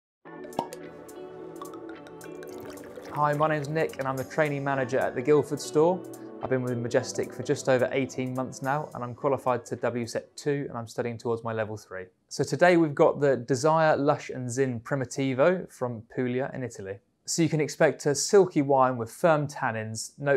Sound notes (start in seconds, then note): 0.2 soft music; 1.6 wine pouring; 2.2 wine bottle uncorking